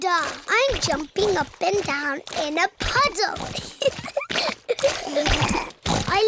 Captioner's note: snorts; giggling